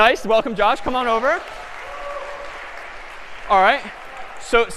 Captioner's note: applause